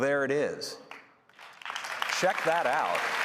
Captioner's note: applause